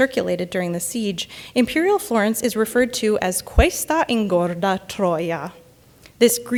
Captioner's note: speaks in Italian